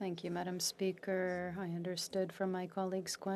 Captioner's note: speaking French